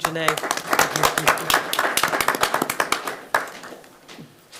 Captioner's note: attendees clapping